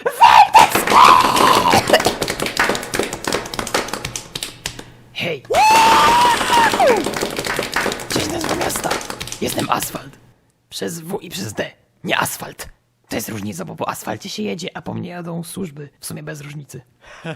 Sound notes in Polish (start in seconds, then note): 0.6 aplauz; 3.4 kaszel; 5.5 aplauz